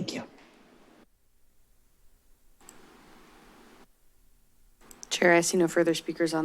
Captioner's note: silence